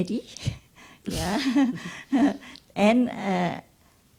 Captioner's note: laughs